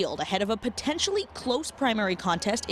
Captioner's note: cheers